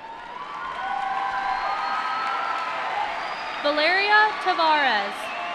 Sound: cheering

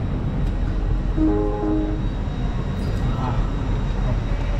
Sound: door chime sounds

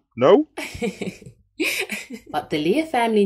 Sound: laughs

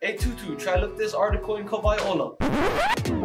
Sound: screeching; upbeat music

